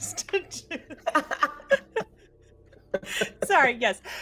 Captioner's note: everyone laughs